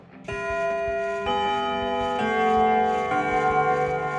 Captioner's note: doorbell ringing